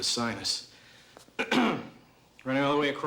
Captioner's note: clears throat